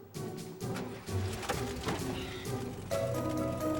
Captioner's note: engine turns over